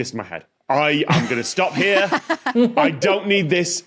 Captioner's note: guests laughing